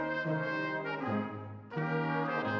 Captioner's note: none